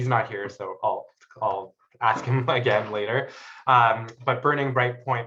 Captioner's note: chuckles